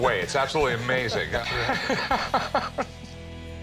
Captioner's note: laughter